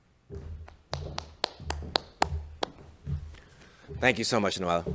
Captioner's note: clapping